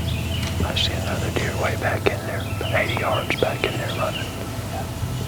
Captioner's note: whispering